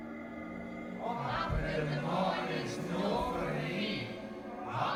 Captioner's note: chorus of voices